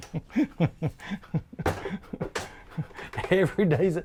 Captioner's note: laughs